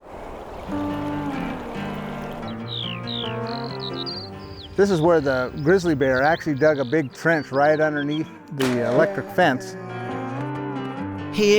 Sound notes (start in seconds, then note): 0.0 gentle guitar music; 0.0 water trickles; 2.3 birds chirping and chittering; 10.1 energetic music